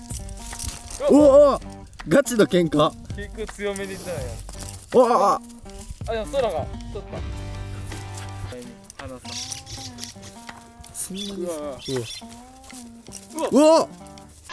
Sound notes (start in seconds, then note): 6.9 laughs